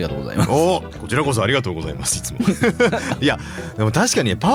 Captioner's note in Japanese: 笑い